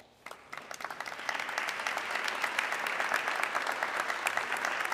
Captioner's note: audience clapping